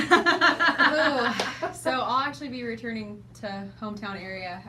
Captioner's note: laughing